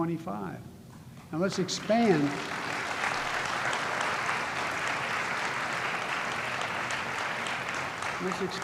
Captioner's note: applause